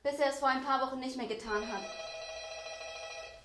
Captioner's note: doorbell rings